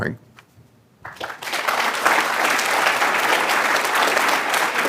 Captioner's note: applause